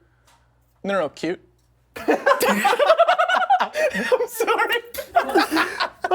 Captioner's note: laughter